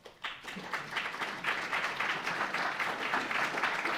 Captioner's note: audience applauding